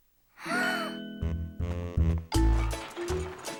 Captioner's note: gasps